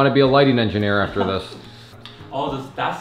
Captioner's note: chuckling